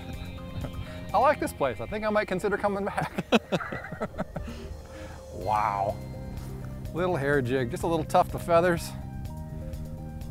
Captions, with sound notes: I like this place, I think I might consider coming back. (laughing) Wow, little hair jig, just a little tuft of feathers.